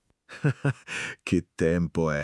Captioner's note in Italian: Haha